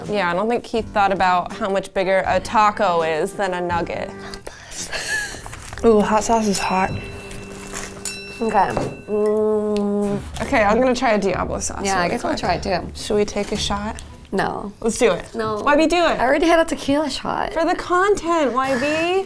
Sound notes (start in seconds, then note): 4.8 giggling; 6.0 bell ringing